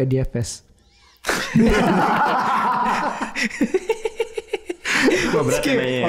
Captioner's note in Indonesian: tertawa